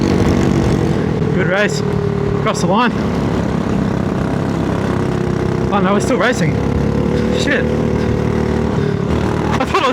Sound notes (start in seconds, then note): 3.8 engine noise